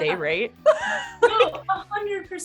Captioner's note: chuckles